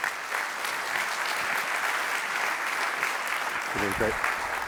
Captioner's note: applause